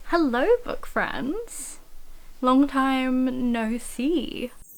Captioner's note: magic Chime